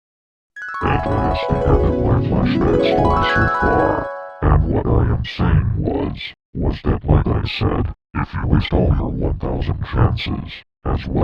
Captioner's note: flashback Sound Effect